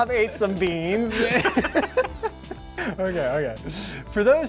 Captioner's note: laughing; both men laughing